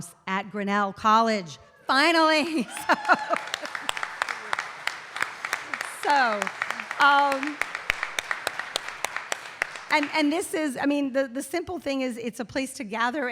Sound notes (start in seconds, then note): 4.3 audience cheering and applauding